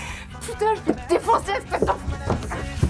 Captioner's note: cursing in French